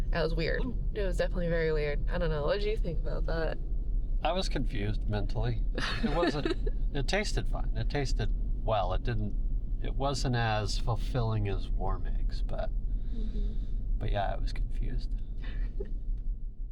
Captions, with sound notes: That was weird. It was definitely very weird. I don't know, what did you think about that? I was confused mentally. It wasn't, it tasted fine. It tasted, well it didn't, it wasn't as fulfilling as warm eggs but, but yeah I was confused. (laughing)